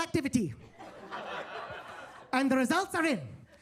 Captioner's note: attendees laughing